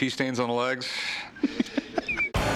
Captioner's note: laughs